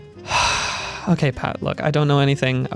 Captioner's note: sighs